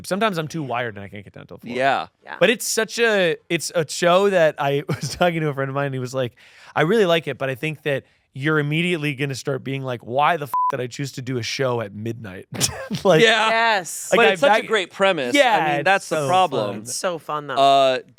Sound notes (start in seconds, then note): 10.5 beep; 12.6 laughs